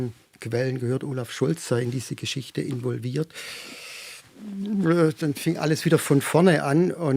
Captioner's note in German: seufzt